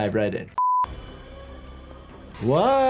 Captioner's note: sound beeps